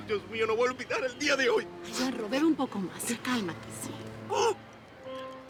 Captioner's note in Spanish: Solloza